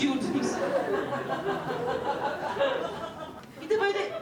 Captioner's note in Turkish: Gülüşmeler